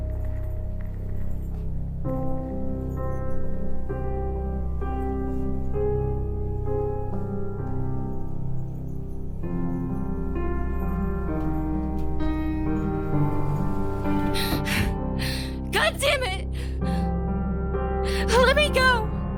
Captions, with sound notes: (Sarah panting) - Goddamn it, let me go.